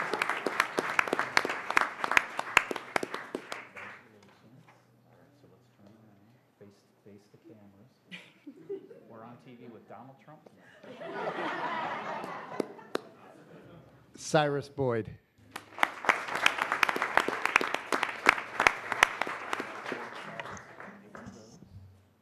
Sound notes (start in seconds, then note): 11.6 applause; 18.9 applause